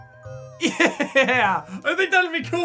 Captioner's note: laughing